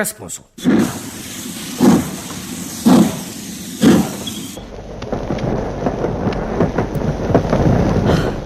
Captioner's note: sound of a train